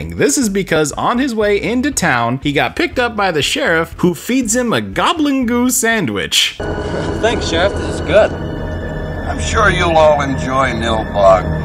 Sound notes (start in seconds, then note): none